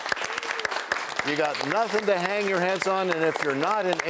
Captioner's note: applause